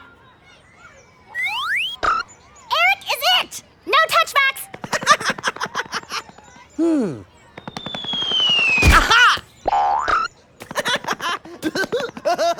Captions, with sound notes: ERIC IS IT! NO TOUCH-BACKS! (LAUGHS) HMM... AHA! (LAUGHTER)